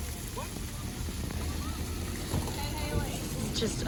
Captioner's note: water falling